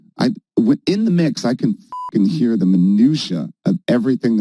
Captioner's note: beep